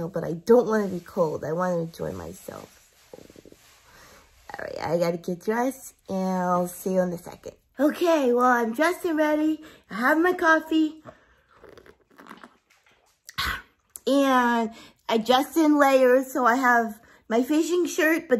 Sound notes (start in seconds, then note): 11.0 sips